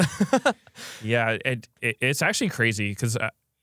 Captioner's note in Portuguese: risos